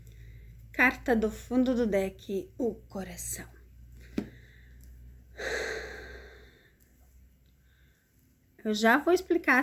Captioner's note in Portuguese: suspirando